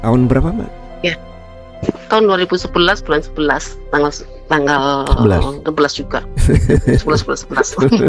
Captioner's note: tertawa